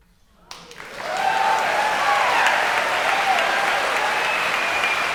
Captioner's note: audience cheering and applauding